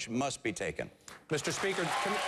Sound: applause

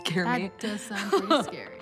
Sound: laughs

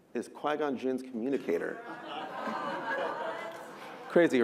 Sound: audience chatter

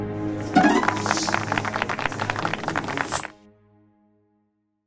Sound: applause

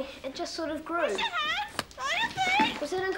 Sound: parrot squawking

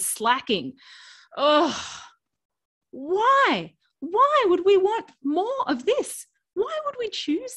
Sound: sighs

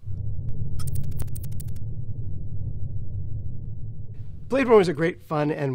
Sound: electronic typing

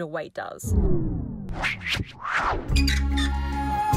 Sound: air whooshing; gentle music

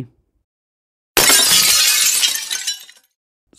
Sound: broken glass sound

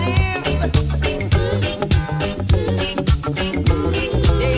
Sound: ooh, ooh, ooh

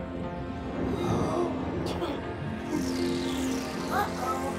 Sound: gasps and giggles

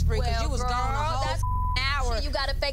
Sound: beep

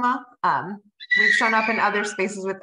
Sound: child screaming

